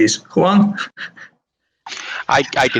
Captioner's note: laughs